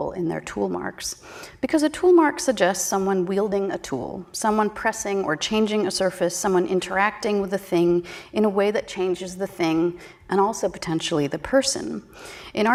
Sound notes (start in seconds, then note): none